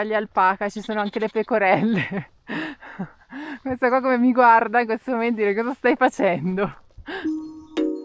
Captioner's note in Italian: risate